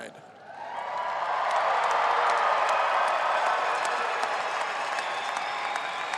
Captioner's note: audience applauding and cheering